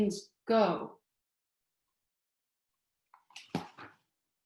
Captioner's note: silence